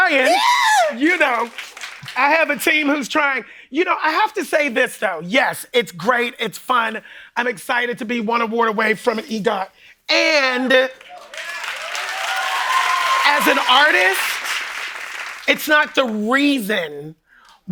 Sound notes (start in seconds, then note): 10.9 cheering and applause